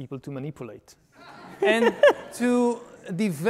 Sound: laughing

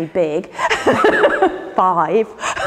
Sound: Ruth laughs

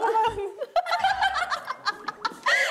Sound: laughing

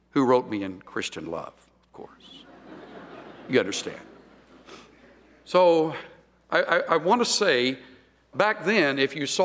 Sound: laughter

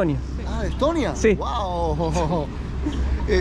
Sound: laughs

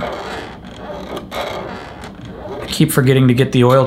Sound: NES creaking

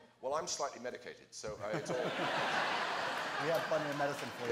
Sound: laughter

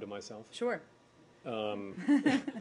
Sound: laughter

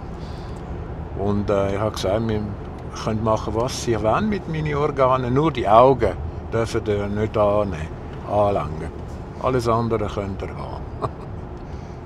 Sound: laughs

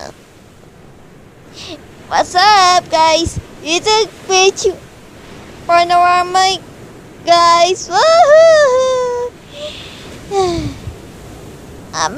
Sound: sighs

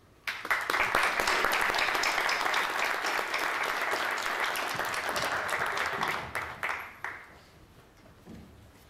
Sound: applause

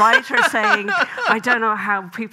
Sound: Graham laughing

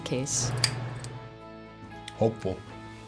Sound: switch clicks

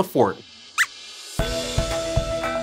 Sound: squeaks squeaks

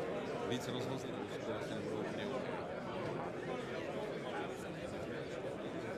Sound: speaking in foreign language

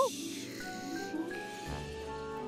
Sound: gasps

